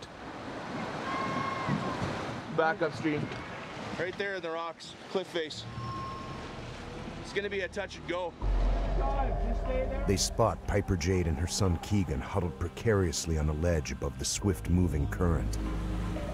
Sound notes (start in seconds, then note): 13.1 yelling out distantly